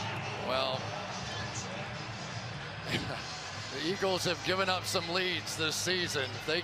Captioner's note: laughs